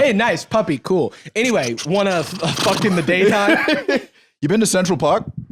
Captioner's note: laughs